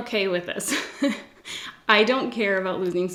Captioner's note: laughs